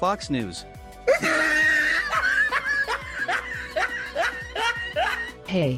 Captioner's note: laughs